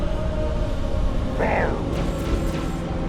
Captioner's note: growl